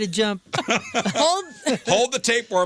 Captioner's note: laughing